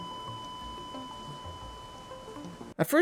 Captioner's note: flatline noise